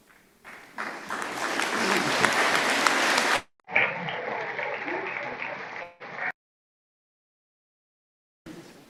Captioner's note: applause